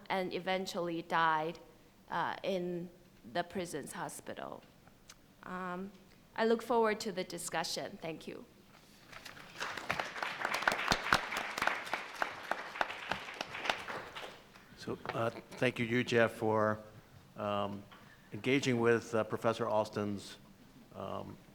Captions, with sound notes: and eventually died in the prison's hospital? I look forward to the discussion. Thank you. (panel and audience applause) - So, thank you Yu-Jie for engaging with Professor Austin's view on China